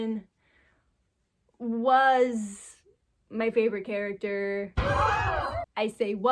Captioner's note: crowd gasp